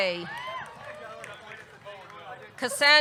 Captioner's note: audience cheering